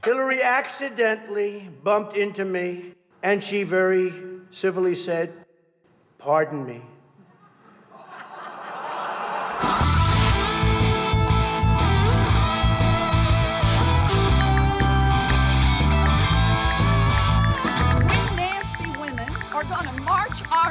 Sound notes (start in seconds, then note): 7.2 audience laughing; 10.7 rock music; 13.8 ticking